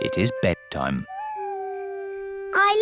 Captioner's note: owl hoots